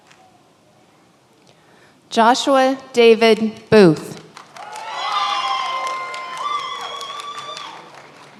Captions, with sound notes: Joshua David Booth. (many applauding)